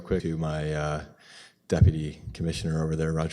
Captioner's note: audio drop